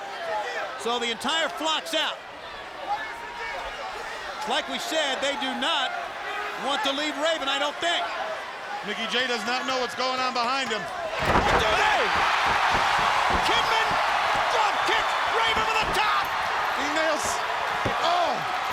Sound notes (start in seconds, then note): 11.4 crowd cheering